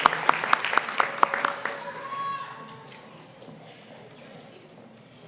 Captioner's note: applause